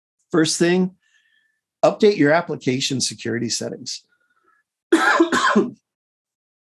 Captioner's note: cough